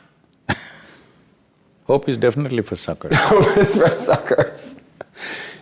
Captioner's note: laughs